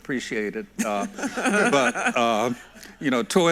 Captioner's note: everyone laughs